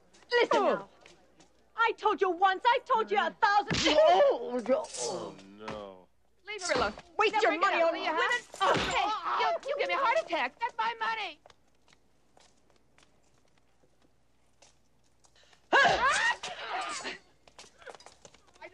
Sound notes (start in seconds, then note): 3.6 hitting; 3.7 groaning; 15.8 hitting; 15.8 yelling